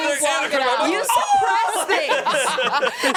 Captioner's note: yells